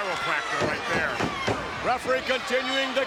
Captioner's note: thumps sound out